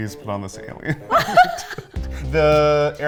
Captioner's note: laughing